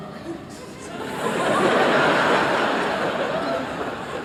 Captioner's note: laughter